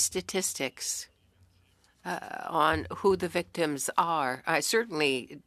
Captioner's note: speaking French